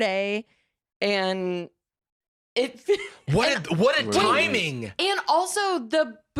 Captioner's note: laughs